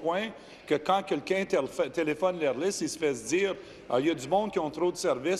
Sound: speaking in French

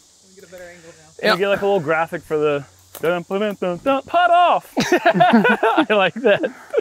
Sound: laughter

